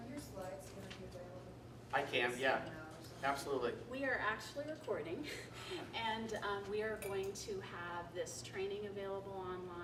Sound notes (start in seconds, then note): 5.4 laughter